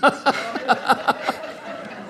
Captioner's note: laughter